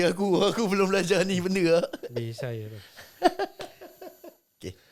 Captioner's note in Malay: ketawa